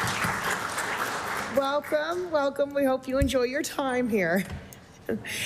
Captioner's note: applause